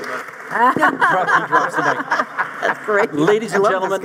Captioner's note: panel laughing